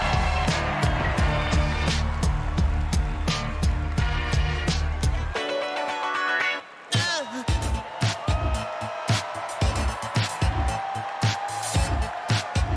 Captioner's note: cheers and applause